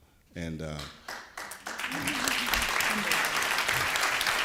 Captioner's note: audience applauding